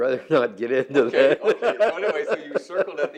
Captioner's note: laughs